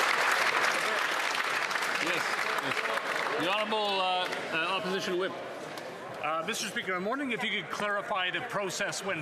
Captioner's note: applause